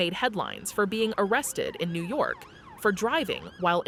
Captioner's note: siren blares